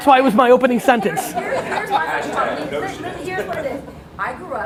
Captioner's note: laughing